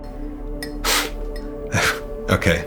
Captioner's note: scoffs